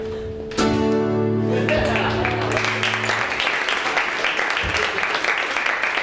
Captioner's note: crowd laughing and clapping